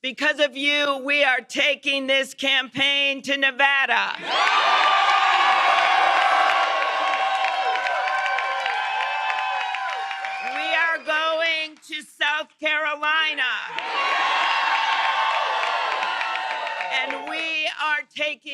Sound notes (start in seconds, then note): 4.2 cheers and applause; 13.4 cheers and applause